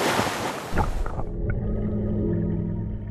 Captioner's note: water bubbling